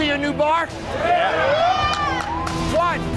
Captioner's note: crowd cheering